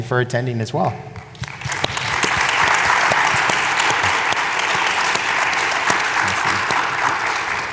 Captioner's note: applause